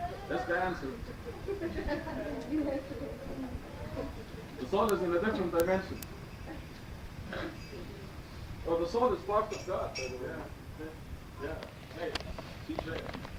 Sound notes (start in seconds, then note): 1.0 laughter